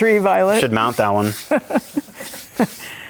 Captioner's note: laughing